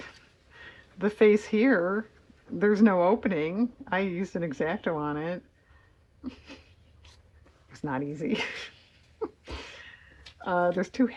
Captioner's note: laughs